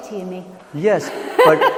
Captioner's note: laughs